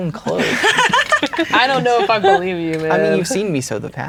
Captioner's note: laughing